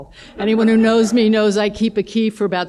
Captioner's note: laughter